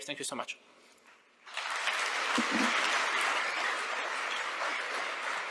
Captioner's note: audience applauding